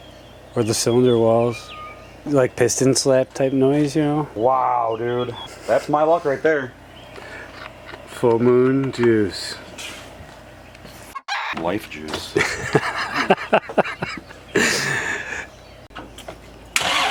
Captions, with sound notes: Or the cylinder walls, like piston slap type noise. You know. Wow, dude, that's my luck right there full moon juice f[chicken noise] life juice hahahaha